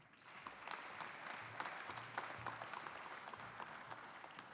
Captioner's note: audience applauding